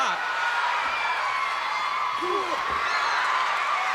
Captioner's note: crowd cheers